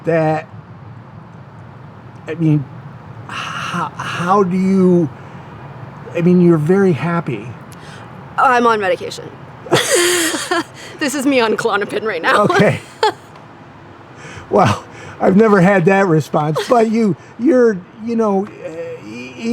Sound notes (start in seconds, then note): 9.7 laughs; 16.5 chuckles